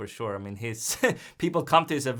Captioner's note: chuckles